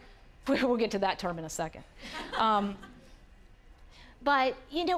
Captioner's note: audience laughing